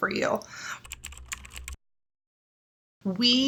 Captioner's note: keyboard typing